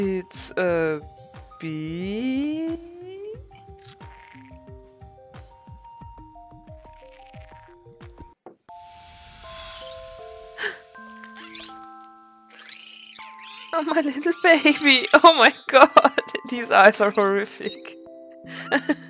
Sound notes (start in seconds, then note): 10.5 gasps; 18.4 laughs